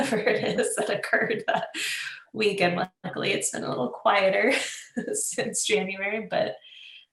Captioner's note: laughs